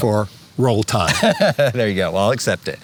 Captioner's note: chuckles